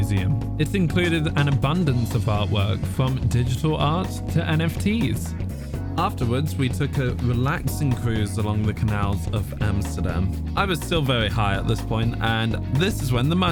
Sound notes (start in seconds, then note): none